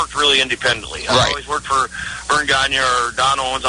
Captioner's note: laughs